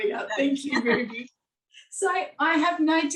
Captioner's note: chuckling